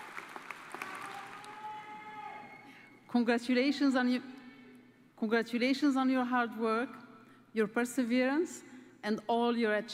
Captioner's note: applause